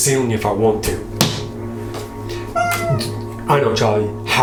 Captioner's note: Charlie squeaks; card hits ceiling